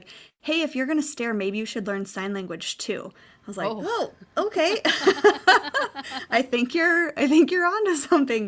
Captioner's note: laughing